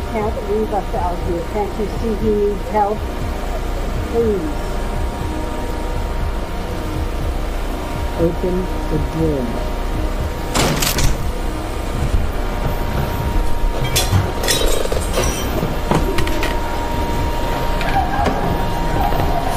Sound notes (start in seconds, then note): 5.1 eerie atmospheric noise; 10.7 glass shatters; 10.7 wood cracks; 15.9 eerie atmospheric noise